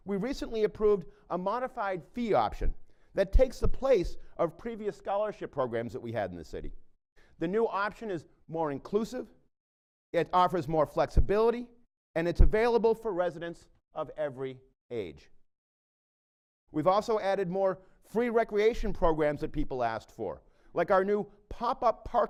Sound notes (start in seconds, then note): none